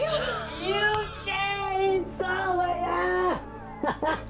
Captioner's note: gasps; laughing